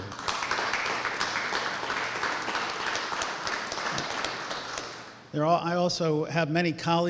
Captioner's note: applause